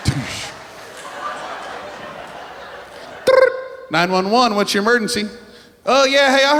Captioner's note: phone rings